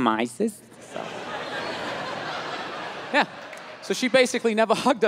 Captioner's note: crowd laughs